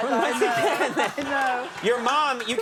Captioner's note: audience cheering